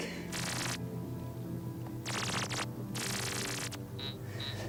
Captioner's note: electronic chirping